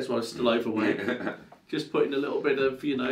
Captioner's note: laughs